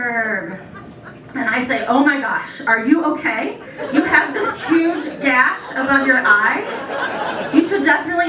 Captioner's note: laughter